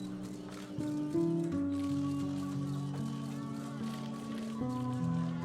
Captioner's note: crowd shouting, cameras clicking; melancholy music continues playing